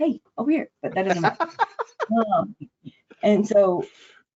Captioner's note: laughing